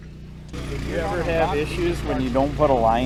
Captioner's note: machine engine roaring